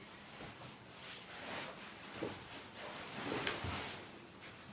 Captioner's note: fabric rustling